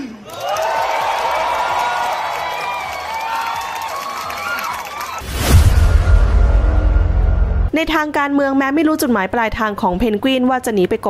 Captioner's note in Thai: ปรบมือ